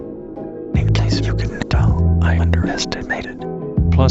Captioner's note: whispering